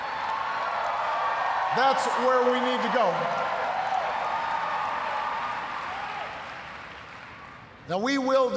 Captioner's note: cheers, applause; cheers, applause